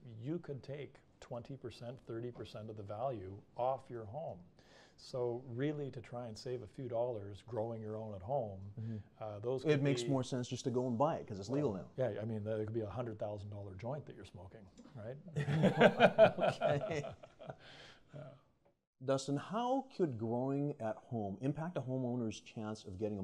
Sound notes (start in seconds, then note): 15.3 laugh